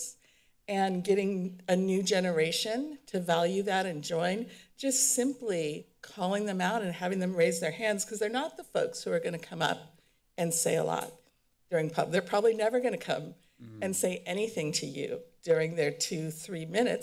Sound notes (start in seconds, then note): none